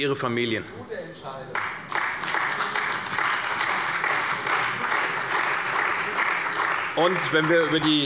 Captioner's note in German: Beifall bei der CDU und dem BÜNDNIS 90/DIE GRÜNEN